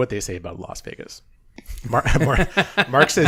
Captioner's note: laughing